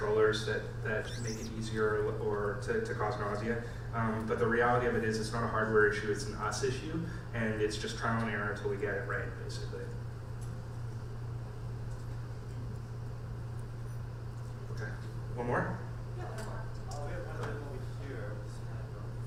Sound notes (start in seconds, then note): 16.3 voiceover